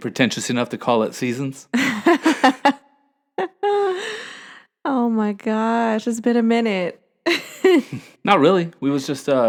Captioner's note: laughter